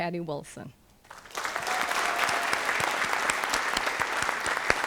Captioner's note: applause